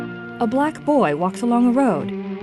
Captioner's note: voices humming